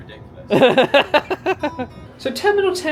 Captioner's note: laughs